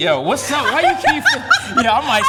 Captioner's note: laughing